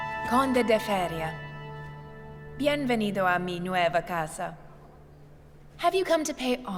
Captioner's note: Elizabeth speaks in a foreign language